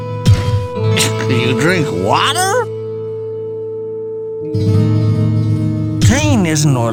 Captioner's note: scoffs